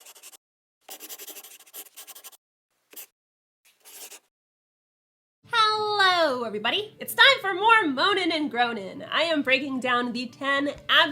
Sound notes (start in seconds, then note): 3.7 the sound of a pen scratching